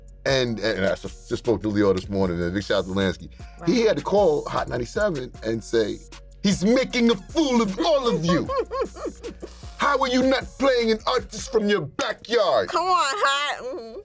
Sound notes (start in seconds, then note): 7.4 chuckles